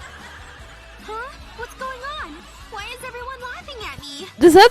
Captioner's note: laughter